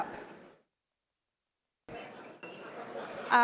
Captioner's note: laughter